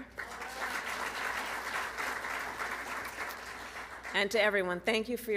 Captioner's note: applause